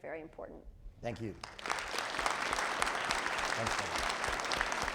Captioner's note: audience applauding